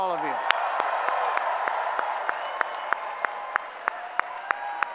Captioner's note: applause